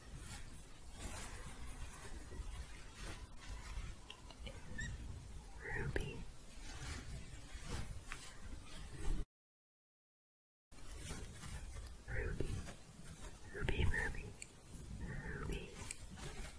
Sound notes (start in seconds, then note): 0.0 scratching; 6.6 shuffling and scratching; 16.4 scratching